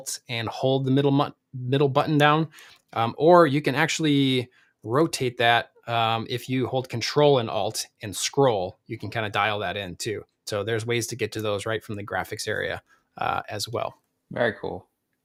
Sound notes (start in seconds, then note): none